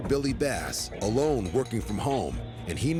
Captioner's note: doorbell ringing